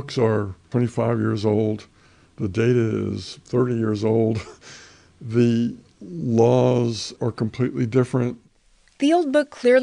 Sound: laughs

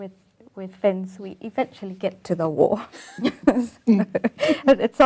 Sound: laughing

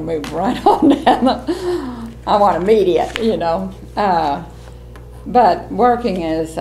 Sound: laughs

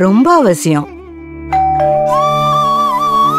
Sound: doorbell rings

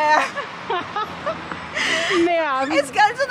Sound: laughter

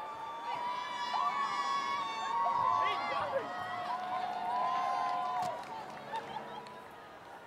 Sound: applause

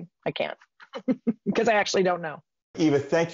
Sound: laughs

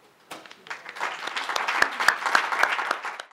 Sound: applause

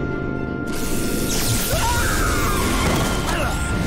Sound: screaming

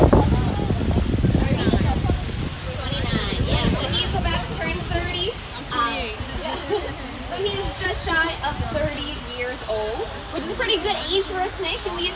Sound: laughter; chatter

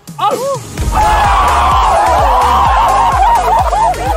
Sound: Sidemen cheering; upbeat electronic music

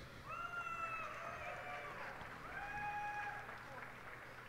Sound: cheers and applause

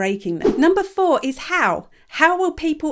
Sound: image whooshes

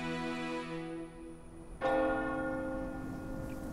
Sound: church bell gongs

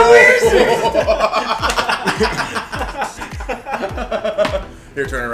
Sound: laugh

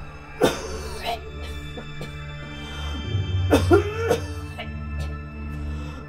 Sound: foreboding music; woman coughing

